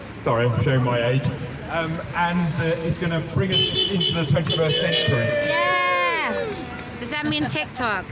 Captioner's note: car horns, applause